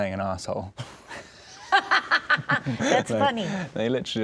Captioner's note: laughing